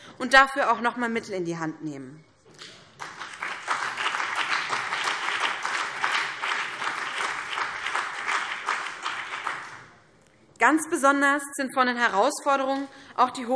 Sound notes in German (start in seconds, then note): 2.9 Beifall BÜNDNIS 90/DIE GRÜNEN und vereinzelt CDU